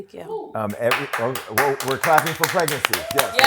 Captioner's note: applause